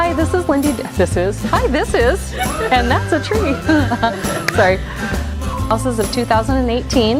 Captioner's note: laughing